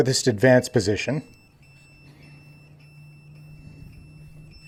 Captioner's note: beeping starts